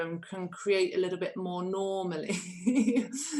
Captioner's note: laughter